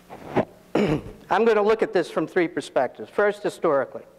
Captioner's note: coughs